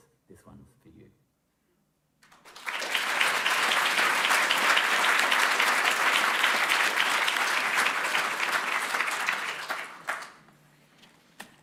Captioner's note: applause